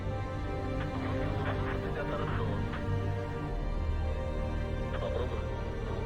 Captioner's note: Dmitry speaking in foreign language; Bob speaking in foreign language; Dmitry speaking in foreign language